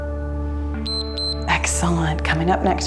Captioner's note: timer beeps